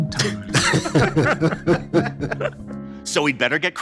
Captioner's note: laughing